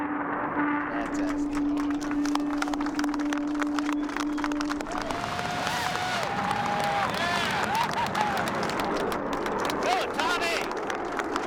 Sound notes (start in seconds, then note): 0.3 crowd applauds; 4.4 cheering